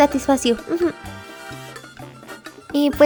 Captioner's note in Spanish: sonido de aprobación